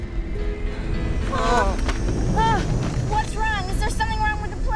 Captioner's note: all Gasping